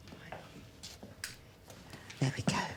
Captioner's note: light switch flicking